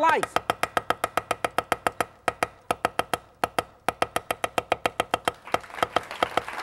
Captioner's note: chopping sounds; applause